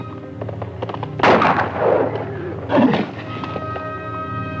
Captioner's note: gun fires